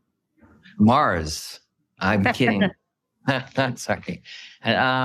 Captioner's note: laughing